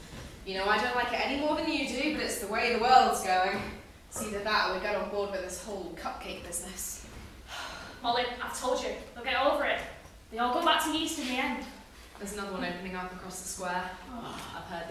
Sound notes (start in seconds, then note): 7.5 sigh